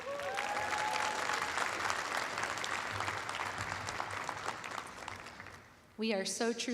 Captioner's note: applause